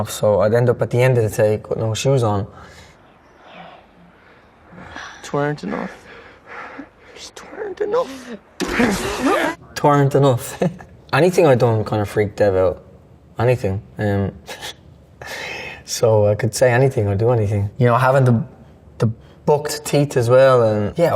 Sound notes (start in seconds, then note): 8.8 feet scuffling; 9.6 metal clanging